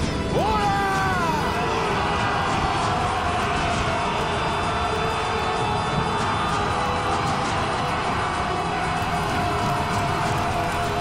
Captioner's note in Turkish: Bağırma sesleri